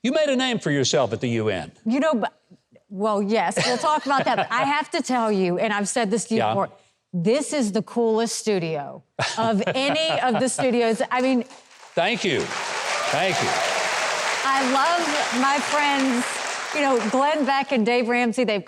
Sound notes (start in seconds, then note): 14.1 audience applauds